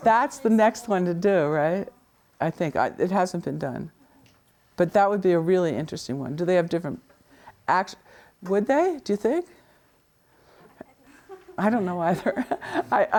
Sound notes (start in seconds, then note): 10.7 laughs